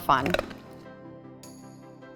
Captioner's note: gentle music; treat crunches